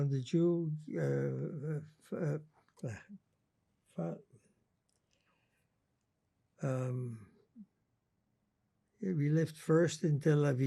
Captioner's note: pauses 8 seconds